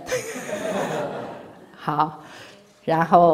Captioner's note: laughs